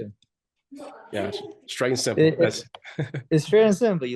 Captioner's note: chuckles